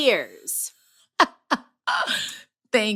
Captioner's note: laughter